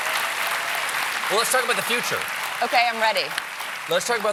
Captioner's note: applause